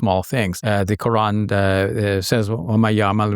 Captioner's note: speaks verse in Arabic